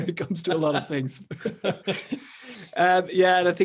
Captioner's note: both laughing